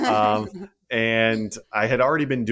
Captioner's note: laugh